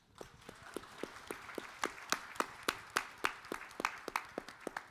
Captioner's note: audience applauding